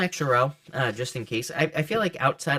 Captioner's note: cards shuffling